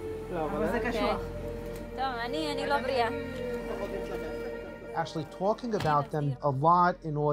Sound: medics speak foreign language

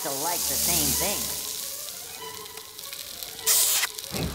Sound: sizzling

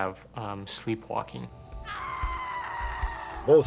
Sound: screams

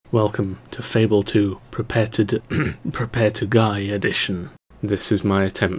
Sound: ahem

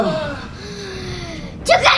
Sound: all groaning

